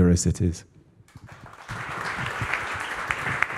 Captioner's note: applause